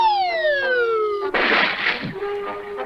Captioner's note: splash!